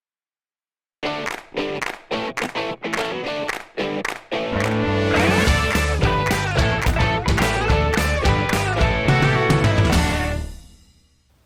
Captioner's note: claps